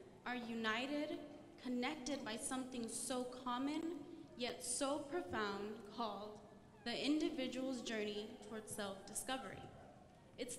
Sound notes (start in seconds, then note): none